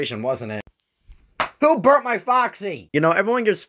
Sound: slaps leg

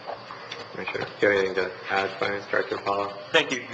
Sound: speaking faintly

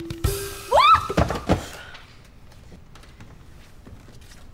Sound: Brit shrieks

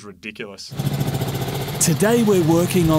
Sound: engine putters

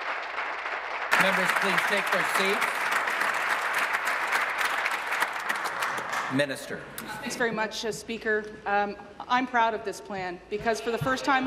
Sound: applause

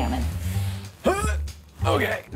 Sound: grunting

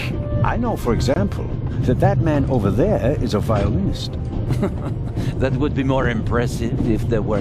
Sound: laugh

